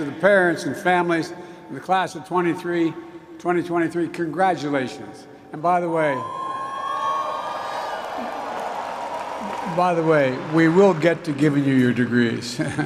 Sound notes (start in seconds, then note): 7.2 applause